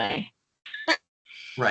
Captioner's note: chuckling